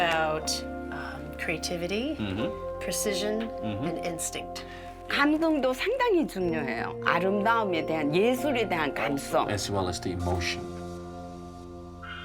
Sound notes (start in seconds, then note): 5.0 speaking Korean